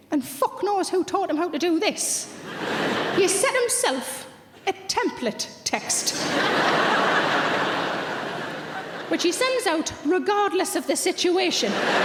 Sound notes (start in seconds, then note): 2.3 audience laughs; 6.0 audience laughs; 11.5 audience laughs